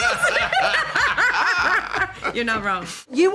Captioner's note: laughs